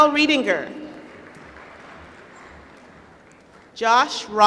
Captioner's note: applause